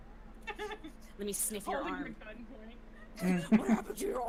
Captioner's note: laughing